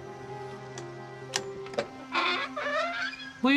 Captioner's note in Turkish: Kapı açılma sesi